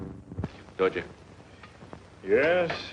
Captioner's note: speaks foreign language